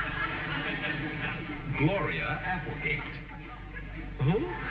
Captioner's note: audience snickering